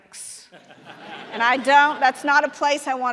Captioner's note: audience laughing